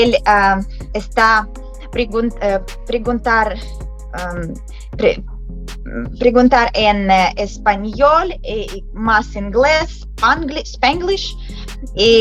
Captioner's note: Spanglish